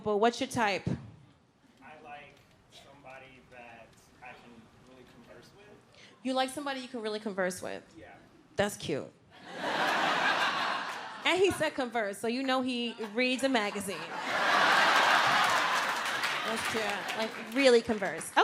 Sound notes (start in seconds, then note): 9.4 audience laughs; 14.5 audience laughs and applauds